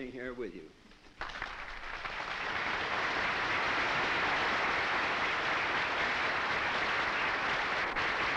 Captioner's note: applause